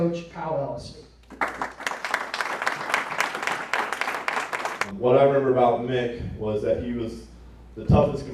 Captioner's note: applause